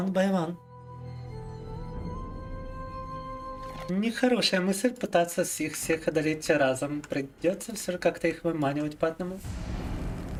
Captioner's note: speaking in Russian